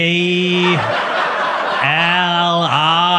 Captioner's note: audience laughs